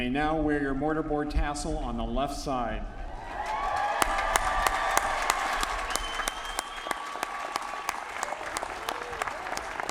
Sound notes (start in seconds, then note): 3.2 applause